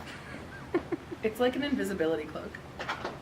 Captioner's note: off camera laughter